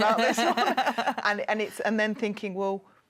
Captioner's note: laughs